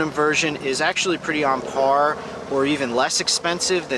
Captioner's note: engine roaring